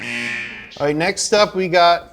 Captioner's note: horn blaring